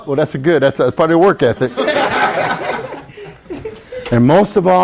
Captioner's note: students laugh